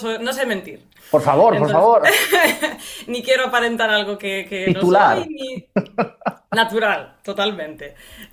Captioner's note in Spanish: risas